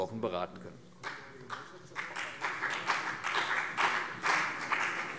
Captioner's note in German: Beifall CDU und BÜNDNIS 90/DIE GRÜNEN